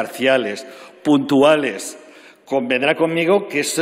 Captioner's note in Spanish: none